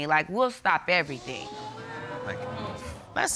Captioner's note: audience gasps